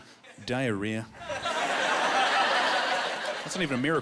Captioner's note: laughing